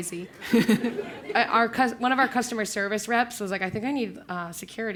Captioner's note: laugh